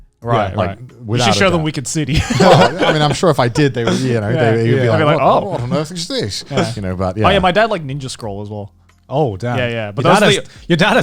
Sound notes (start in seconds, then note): 1.2 chuckles